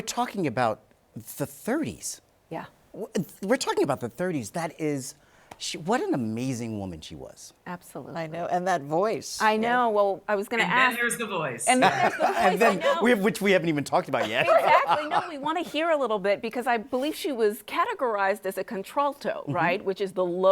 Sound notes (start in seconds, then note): 14.1 laughs